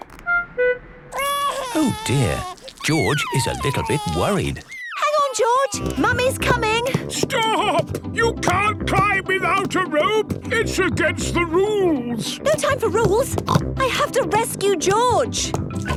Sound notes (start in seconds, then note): 1.1 crying; 13.4 snorts